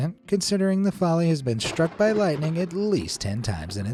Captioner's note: thunder strikes